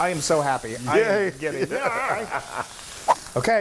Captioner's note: laugh